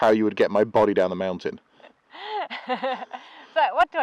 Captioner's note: laughs